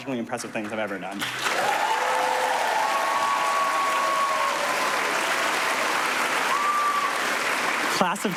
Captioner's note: applause